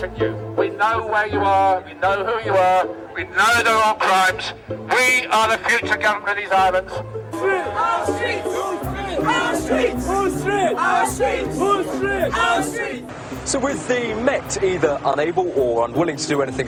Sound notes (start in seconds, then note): 7.2 chanting